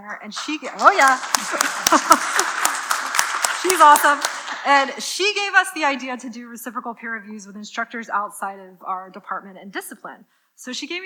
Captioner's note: applause